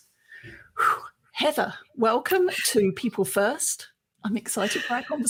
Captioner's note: sighs